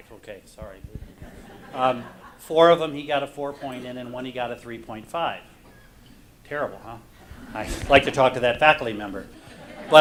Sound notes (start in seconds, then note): 1.0 audience laughs; 9.3 audience laughs